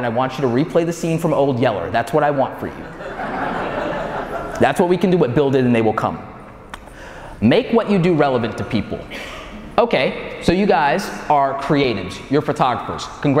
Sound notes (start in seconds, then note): 2.7 audience laughing